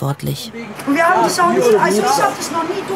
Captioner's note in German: Hitziges Stimmengewirr